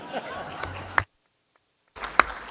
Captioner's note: laughter; applause